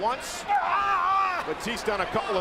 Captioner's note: punk shouts